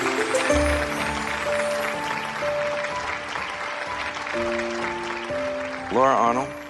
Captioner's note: audience clapping